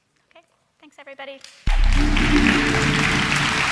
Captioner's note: applauding; atmospheric electronic music